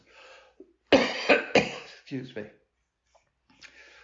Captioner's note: coughs